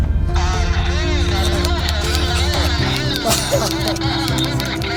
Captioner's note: radio playing